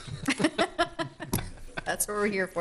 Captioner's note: laughing